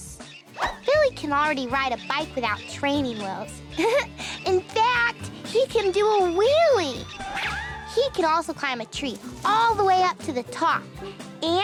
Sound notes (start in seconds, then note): 3.7 chuckles